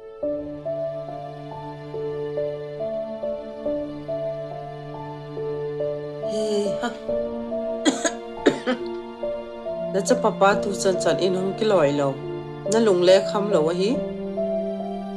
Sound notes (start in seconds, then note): 6.2 sighs; 7.8 coughing